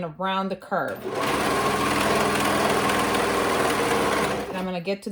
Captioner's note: sewing machine whirring